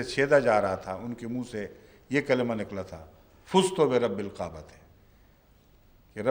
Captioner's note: Arabic